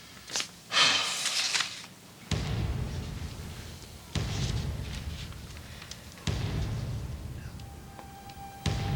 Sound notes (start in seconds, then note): 2.3 thumping noises